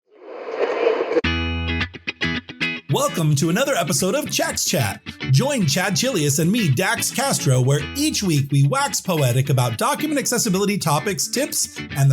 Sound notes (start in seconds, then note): 0.1 air whooshing; 1.3 lively music